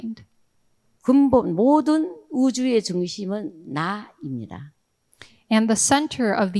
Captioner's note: speaking in foreign language